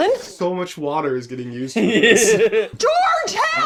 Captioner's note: laughter